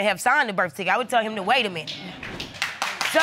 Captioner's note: audience applauding